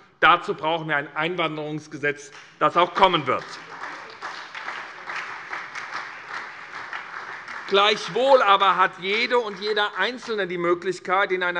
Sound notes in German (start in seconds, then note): 4.7 Beifall SPD und Freie Demokraten